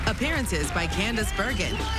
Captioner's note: applause